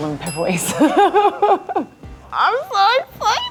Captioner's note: laughs